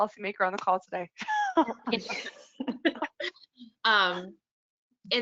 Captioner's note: laughter